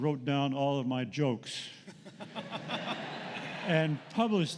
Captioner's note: laughter